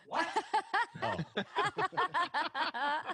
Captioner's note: laughter